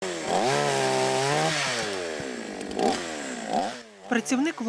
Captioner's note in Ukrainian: працює бензопила